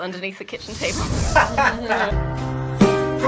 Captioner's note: laughter